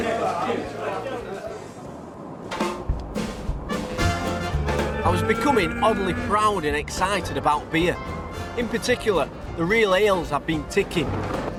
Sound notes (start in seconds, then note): 1.2 car roaring; 2.5 cheerful jazz music